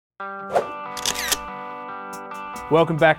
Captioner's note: camera shutter clicks; upbeat rock music